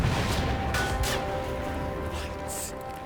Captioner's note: gun fires